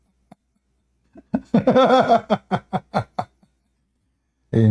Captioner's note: Ketawa